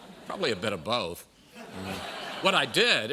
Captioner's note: laughter